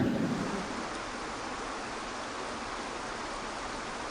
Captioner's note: audience chuckling; water trickling